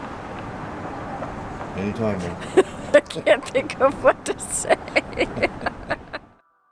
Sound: laughing

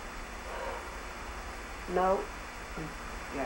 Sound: sigh

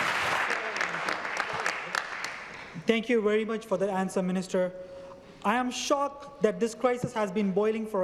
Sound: some Applause

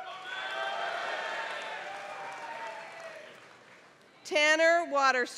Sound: applause

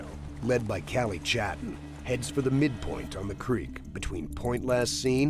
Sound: voiceover

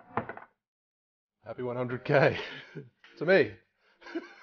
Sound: laughs

